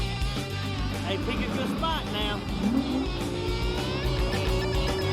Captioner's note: engine revs